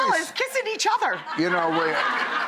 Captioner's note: audience laughs